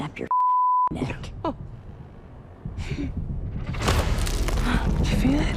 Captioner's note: chuckles